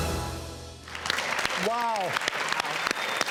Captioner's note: crowd applauding